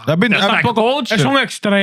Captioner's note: speaking In Foreign Language